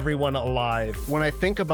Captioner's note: air swooshing